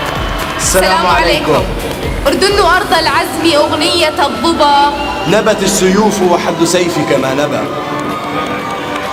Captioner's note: greeting in Arabic